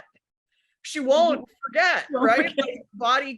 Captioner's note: others laughing